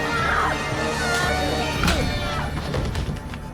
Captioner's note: thud